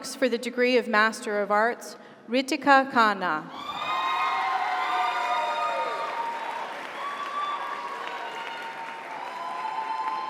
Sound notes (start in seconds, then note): 3.6 audience cheers; 4.0 audience applauds